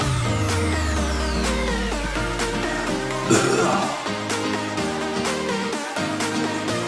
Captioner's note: sighs and burps while one hand is holding his stomach